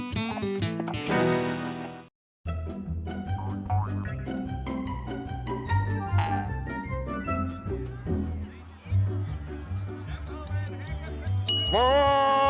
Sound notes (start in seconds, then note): 2.5 quirky music; 10.0 watch ticking; 11.4 bell rings